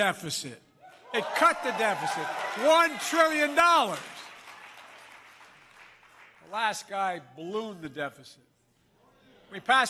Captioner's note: applause